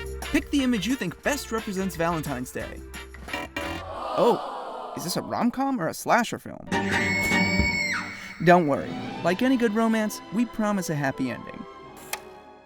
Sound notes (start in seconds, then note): 3.8 audience groans; 6.8 scream